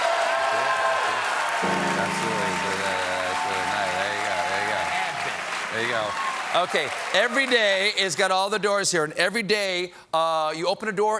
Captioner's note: cheers and applause